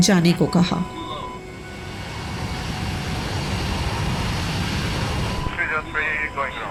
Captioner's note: beeping sound